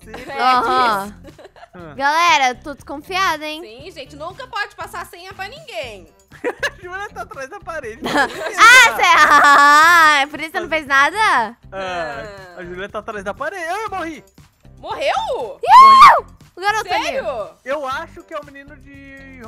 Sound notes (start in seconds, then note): 0.0 laughter; 0.0 laughing on the background; 0.1 laughing; 6.4 laughing on the background; 8.0 laughter; 8.0 laughing; 15.6 screaming